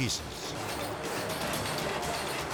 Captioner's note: saw grinding; suspenseful music